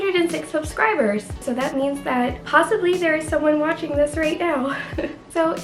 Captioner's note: laughs